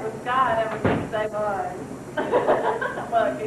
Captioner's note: laughs